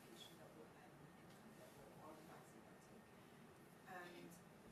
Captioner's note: speaks faintly